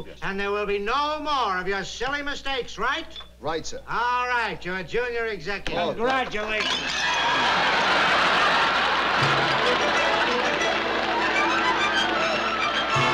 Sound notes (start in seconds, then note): 6.6 glass breaking; 8.9 zany music